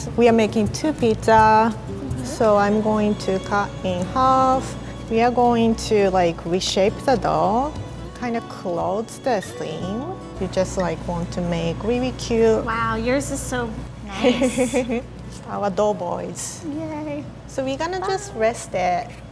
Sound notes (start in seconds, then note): 14.2 laughing